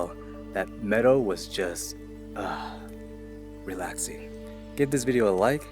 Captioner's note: pleasurable sigh